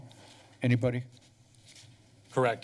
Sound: pause

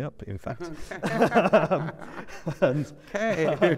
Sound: laughter

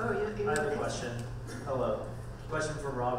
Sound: voiceover

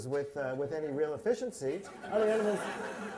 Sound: laughter

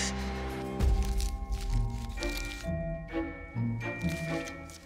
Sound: Kyle gasping; paper crinkling

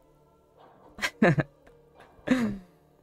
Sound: laughs

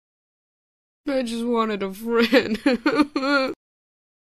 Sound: sobs

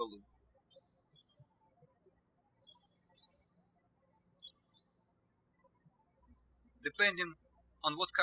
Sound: birds chirping

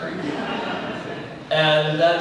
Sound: laughter

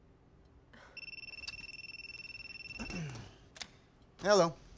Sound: telephone ringing

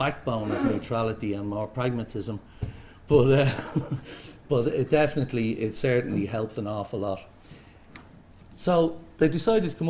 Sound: laughter

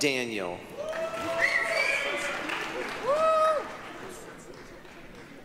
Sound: applause, cheering

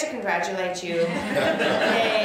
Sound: laughter

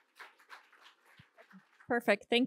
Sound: applause

